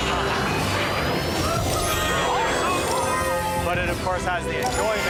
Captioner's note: video game dinging